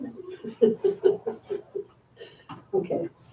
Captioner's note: laughs